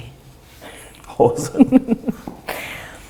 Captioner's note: laughs